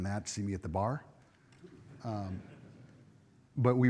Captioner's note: audience chuckles